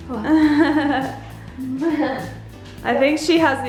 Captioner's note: laughs